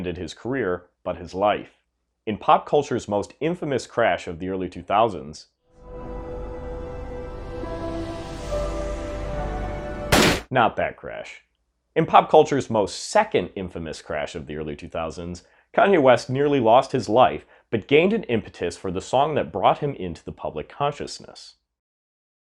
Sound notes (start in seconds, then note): 5.8 dramatic music; 10.1 gunshot